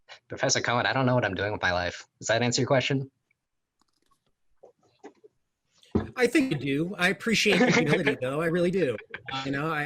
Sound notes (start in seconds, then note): 7.4 laughing